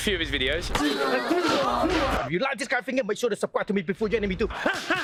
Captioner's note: grunting